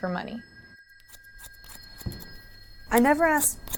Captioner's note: cutting sounds